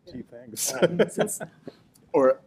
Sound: laughter

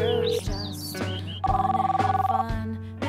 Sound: phone ring

